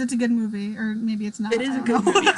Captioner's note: laughs